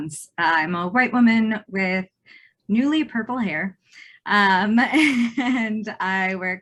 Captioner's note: giggles